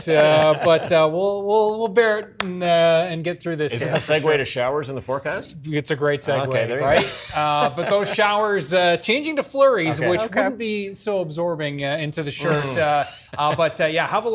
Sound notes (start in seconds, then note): 6.8 laughter